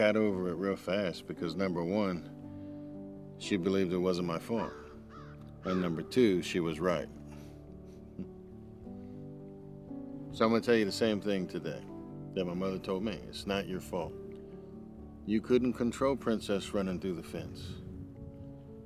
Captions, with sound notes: And I got over it real fast because, number one, she believed it wasn't my fault. (bird cawing) And number two, she was right. (laughs) And so I'm gonna tell you the same thing today that my mother told me. "It's not your fault." You couldn't control Princess running through the fence.